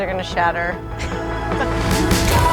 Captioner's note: laughter; upbeat music